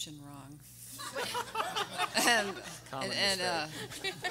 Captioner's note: everyone laughing